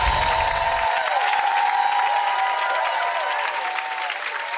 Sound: audience cheers

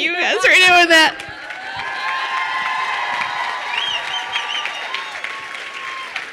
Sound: crowd cheering and applauding

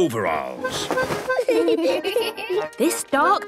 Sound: giggling

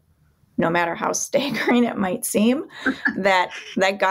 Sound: laughs

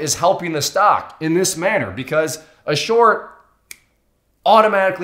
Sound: snaps

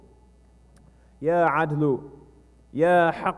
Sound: speaking non-english

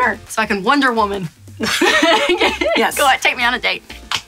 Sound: laughs

